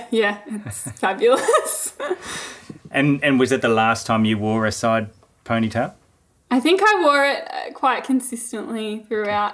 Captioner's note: both laughing